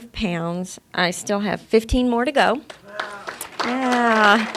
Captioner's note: applause